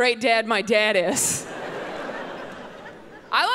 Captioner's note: audience laughing